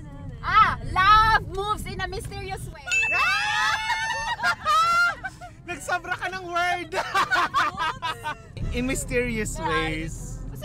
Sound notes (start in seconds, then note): 3.0 cheered; 6.8 laughs